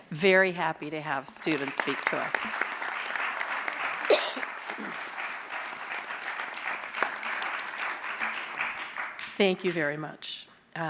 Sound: applause

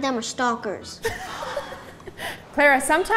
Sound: laughs

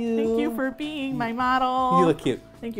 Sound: singsong

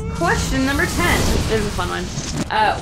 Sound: explosion noise

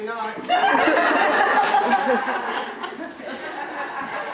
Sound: audience laughter

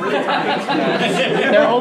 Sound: laughing

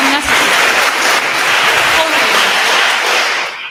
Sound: attendees applauding

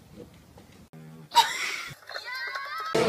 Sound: laughter

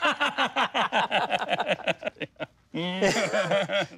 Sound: laughs

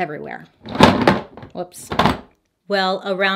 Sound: make-up case clatters

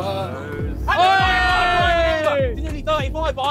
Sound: cheering

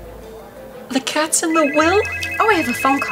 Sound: phone rings

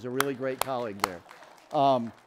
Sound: audience applauds

